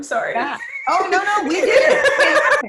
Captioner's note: laughs